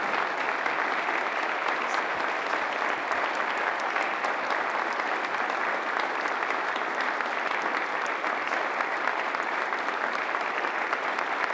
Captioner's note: applause